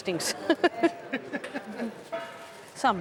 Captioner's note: laughs